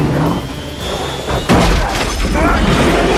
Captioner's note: brakes screeching